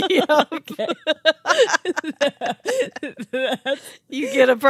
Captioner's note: laughing